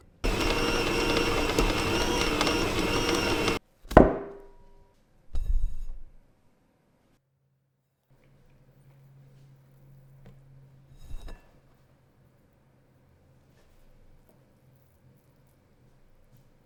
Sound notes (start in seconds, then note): 0.0 mixer whirring; 3.8 dough thud